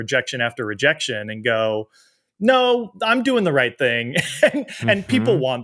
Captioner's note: chuckles